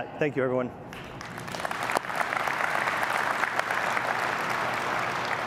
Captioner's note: applause